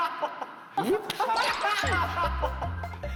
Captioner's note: laughing